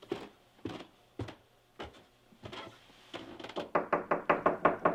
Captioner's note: none